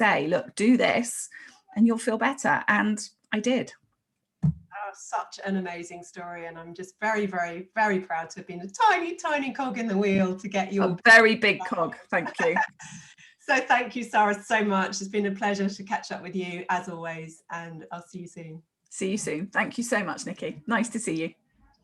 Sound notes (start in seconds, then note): 11.7 laughs